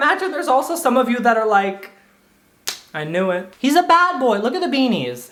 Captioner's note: snaps